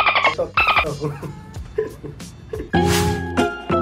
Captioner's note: laugh